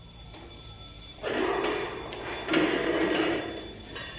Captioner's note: alarm